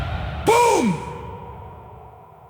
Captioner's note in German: buuuumm!!!!!